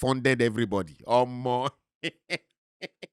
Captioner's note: laughing